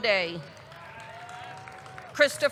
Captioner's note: audience clapping; audience cheering